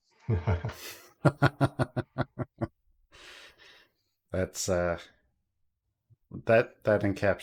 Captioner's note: laughter